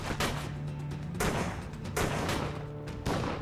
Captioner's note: gunshots banging